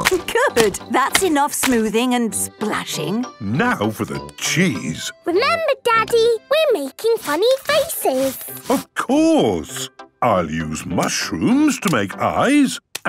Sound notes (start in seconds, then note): none